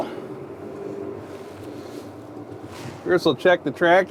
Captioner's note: tractor engine rumbling